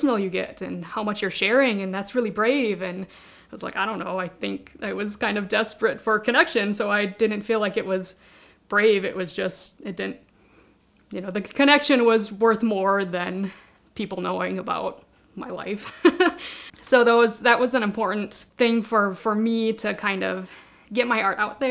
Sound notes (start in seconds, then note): 15.9 laughing